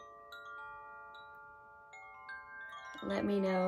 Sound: chimes

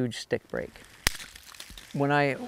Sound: stick cracks

